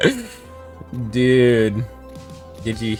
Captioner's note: deranged laughter